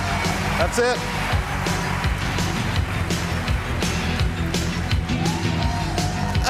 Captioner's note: cheers and applause